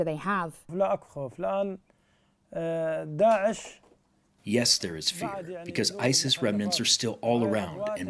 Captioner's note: through translator